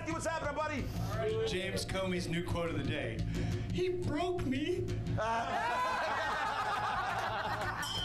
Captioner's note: laughter; bell rings